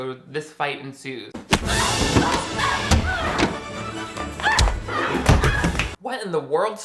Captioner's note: Viola and Monique grunting; brooding music